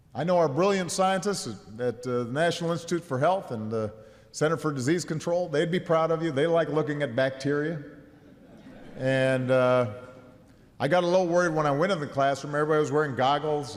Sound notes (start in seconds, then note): 8.1 laughter